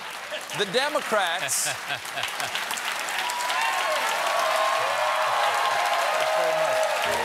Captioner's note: applause; laughter; cheering; piano riff